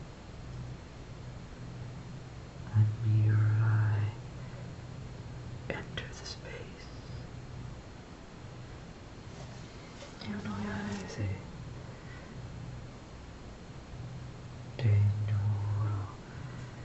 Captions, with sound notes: Lend me your eye. Enter the space. (foregin language)